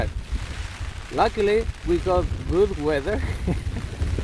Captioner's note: laughs